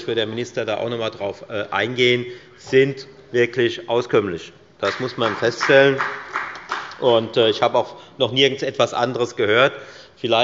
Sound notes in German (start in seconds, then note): 2.3 Beifall bei der FDP